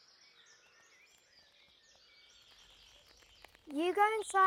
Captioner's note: birds chirping